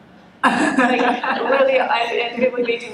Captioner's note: laughs